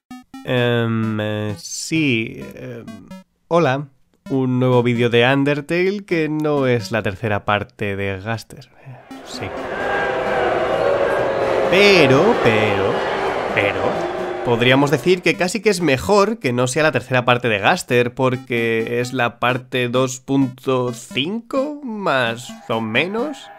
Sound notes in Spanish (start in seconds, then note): 8.9 abucheos